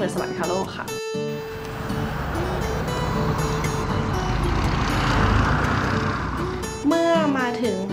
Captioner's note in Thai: เสียงรถยนต์